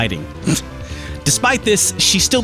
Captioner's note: snort